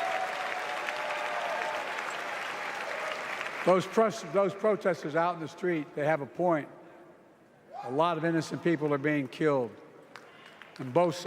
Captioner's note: applause